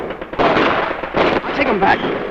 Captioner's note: explosion booming; missile whistling